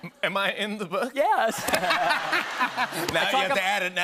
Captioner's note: laughter